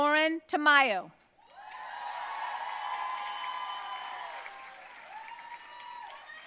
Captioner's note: audience cheering and applauding